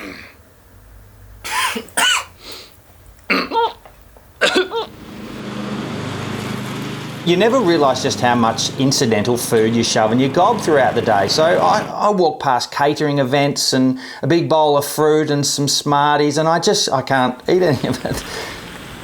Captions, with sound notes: [COUGHING] You never realize just how much incidental food you shove in your gob throughout the day. So I, I walk past catering events and a big bowl of fruit and some smarties and I just, I can't eat any of it.